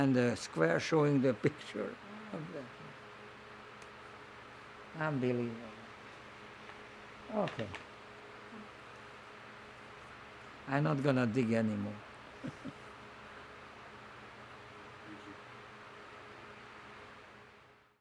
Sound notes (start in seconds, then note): 12.4 laughing